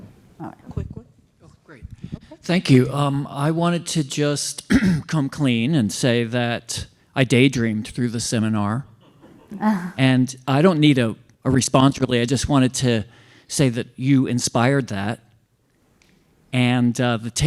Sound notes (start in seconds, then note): 4.6 cough